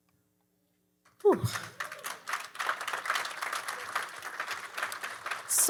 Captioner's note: audience applauding